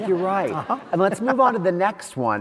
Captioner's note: audience laughs